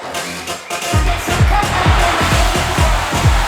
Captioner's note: mist hisses; loud dance music